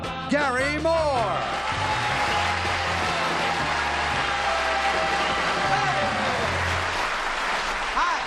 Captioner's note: applause